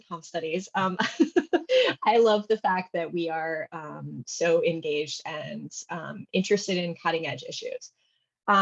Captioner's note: laughs